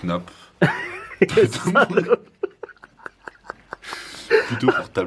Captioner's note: laughter